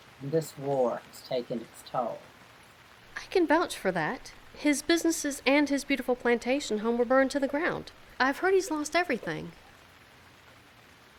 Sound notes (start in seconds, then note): none